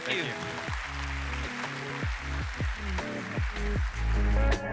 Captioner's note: audience applauds; upbeat music